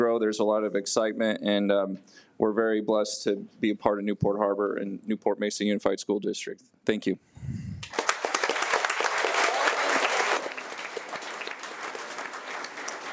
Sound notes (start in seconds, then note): 7.8 audience applauds